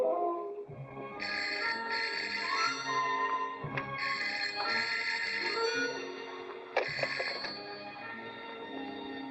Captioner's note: phone rings